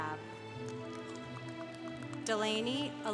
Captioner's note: congregation applauding